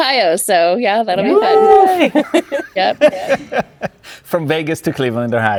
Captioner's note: cheering Ohhh